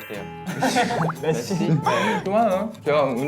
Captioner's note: laughing